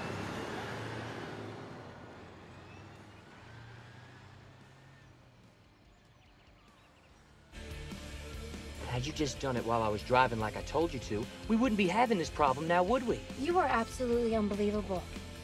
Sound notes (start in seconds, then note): none